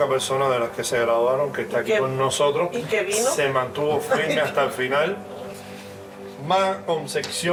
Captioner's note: instructor continues speaking in Spanish